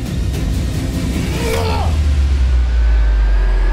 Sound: Chinedu yells

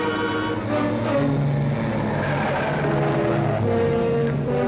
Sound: engine rumbling

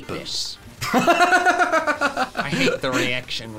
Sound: laughing

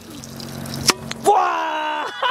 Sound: hollow echo; joyful yelling

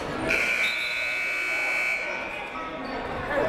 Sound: buzzer ringing

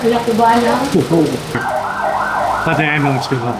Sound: sirens

